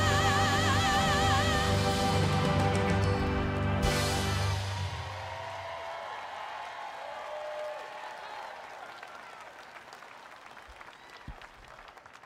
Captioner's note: applause